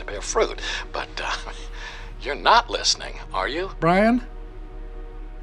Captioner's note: chuckles